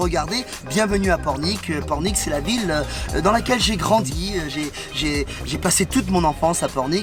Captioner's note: men continue conversing in foreign language